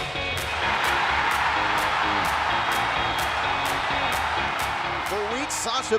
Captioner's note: cheers and applause